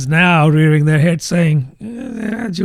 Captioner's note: uh